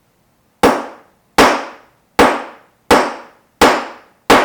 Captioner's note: hammer pounds